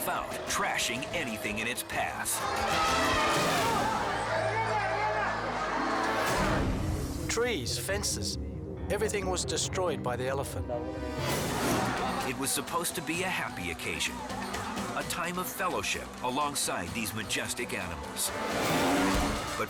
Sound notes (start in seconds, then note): 2.5 attacking elephant trumpets; 3.4 tree slams